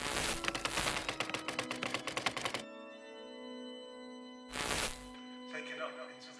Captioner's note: brooding organ music; static crackling; keys clicking; static crackling